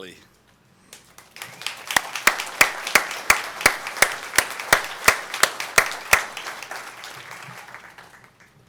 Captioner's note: applause